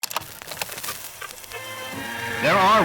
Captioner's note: television crackling